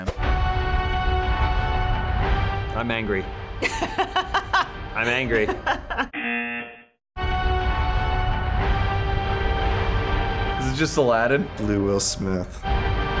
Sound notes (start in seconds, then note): 0.0 dramatic music; 5.0 laughs; 6.3 buzzer